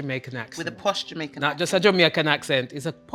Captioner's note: with a Jamaican accent